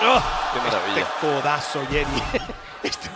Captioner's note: laugh